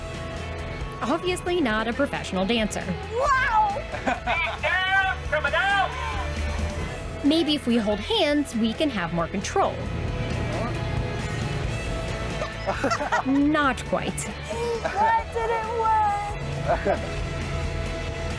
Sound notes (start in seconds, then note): 5.1 laughing